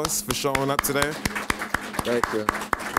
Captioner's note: applause